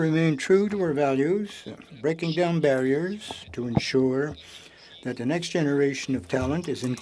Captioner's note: speaking French